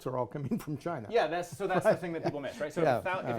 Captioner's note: laughs